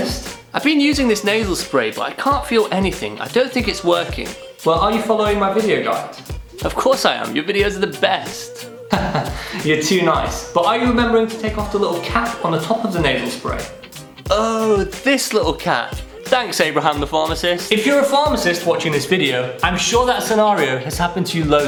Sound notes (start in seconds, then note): 8.9 laughter